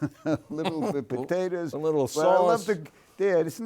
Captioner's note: laughs